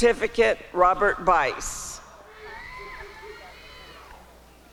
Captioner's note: applause and cheering